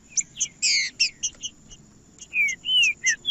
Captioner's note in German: trinca ferro cantando